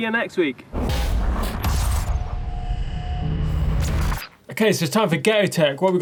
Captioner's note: electric rumbling